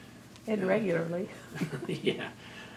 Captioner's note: laughs